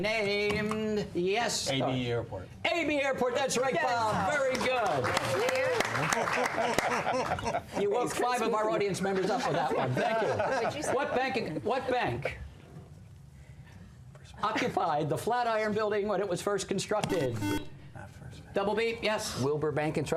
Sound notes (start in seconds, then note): 4.4 applause; 17.0 buzzer